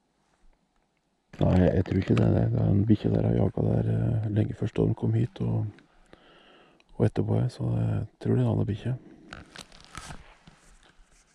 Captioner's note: conversation on hunting radio